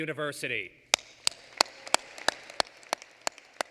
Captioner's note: applause